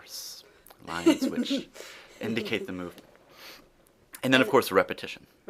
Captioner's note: laughs